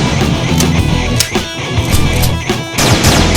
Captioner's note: gun clicks; gun blasting